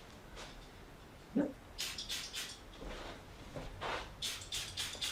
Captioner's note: spritzing